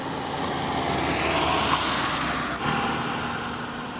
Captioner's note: sound of approaching car